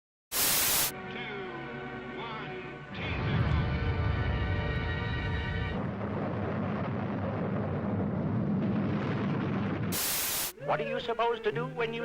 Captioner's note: big boom